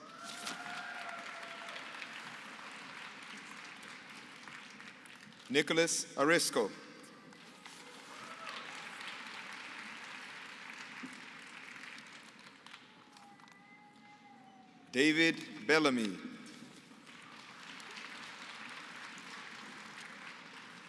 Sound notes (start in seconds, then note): 0.0 applause